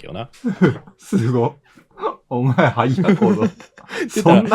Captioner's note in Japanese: 笑い